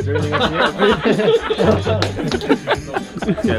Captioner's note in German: Gelächter